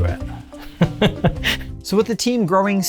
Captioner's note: laughs